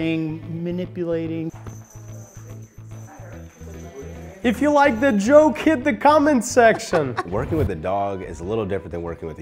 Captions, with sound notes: things like treat coercion, manifesting, manipulating. (people chattering) - If you like the joke,